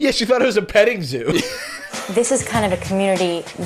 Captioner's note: laughing